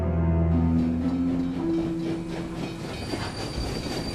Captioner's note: train chugging